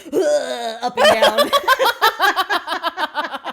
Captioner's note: laughing